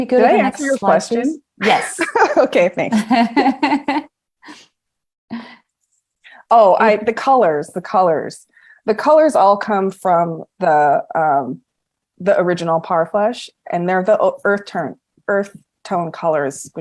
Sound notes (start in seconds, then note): 2.8 laughs